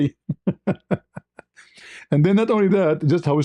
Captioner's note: ketawa